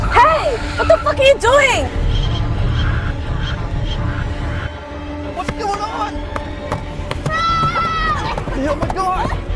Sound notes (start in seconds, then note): 3.9 Mandarin language